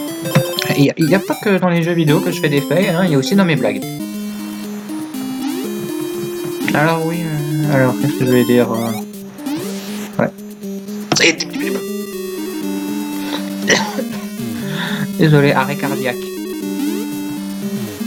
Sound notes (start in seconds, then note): 11.0 incomprehensible panic noise; 13.2 cough cough